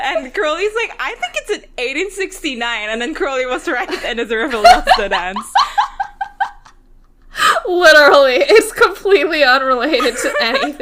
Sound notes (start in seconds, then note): 6.5 laughing; 9.9 both laughing